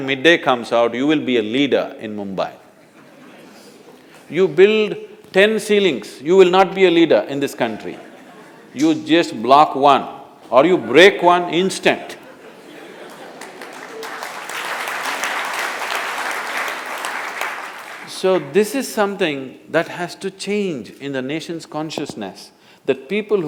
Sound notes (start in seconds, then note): 2.8 laughter; 12.2 laughter/Applause